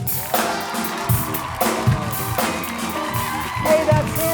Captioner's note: audience cheering; upbeat music